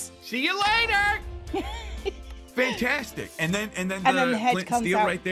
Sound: giggles

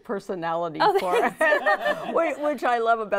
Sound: laughing

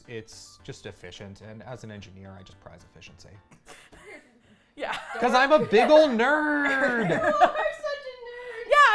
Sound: laughs

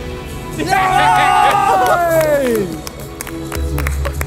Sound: cheering

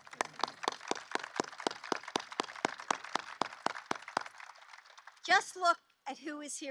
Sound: applause

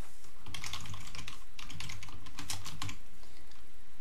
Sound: keyboard clicking

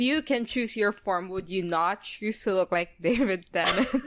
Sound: laughs

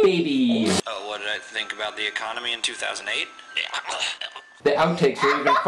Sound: vomiting

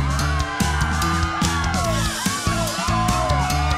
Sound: students cheering

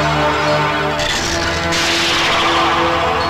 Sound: door creaks

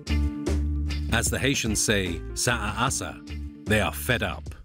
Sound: creole spoken audio

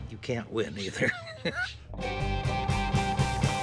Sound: laughs

